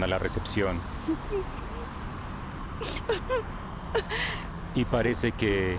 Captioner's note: sollozos